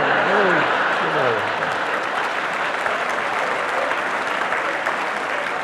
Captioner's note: audience laughing; audience applauding